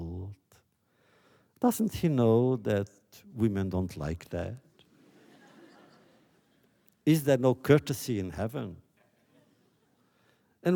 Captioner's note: laughter